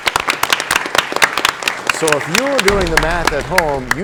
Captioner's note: applause